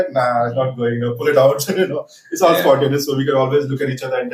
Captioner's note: laughs